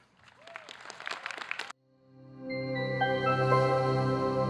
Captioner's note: audience clapping